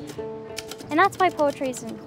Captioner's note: bass plays; keying typewriter